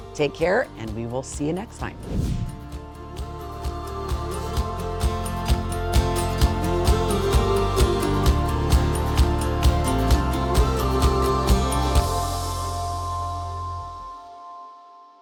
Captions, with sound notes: Take care and we will see you next time. (air whooshing) (upbeat music)